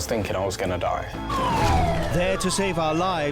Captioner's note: sirens blaring